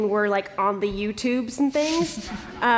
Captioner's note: laughter